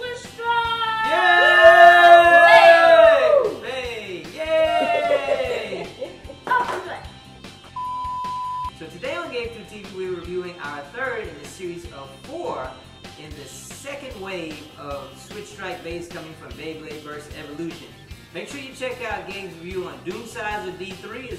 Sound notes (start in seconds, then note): 0.7 cheering; 7.7 beep